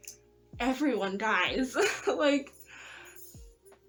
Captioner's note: nervous laugh